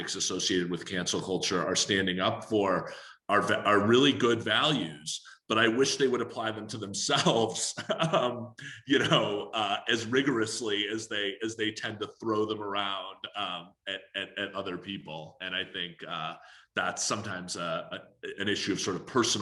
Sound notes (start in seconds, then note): 7.7 laughing